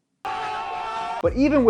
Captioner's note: cheering